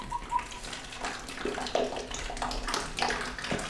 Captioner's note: gurgling; splashing flow